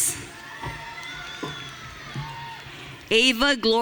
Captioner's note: audience cheering